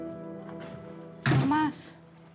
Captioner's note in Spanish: Ruido al abrir